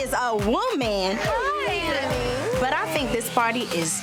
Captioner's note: overlapping chattering